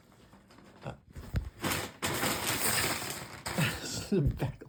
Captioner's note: rustling